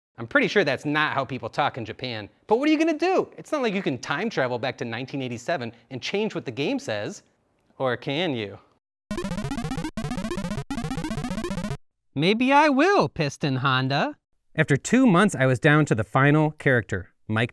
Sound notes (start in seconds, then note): 9.2 robotic video game voice sound